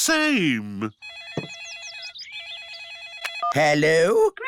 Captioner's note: phone rings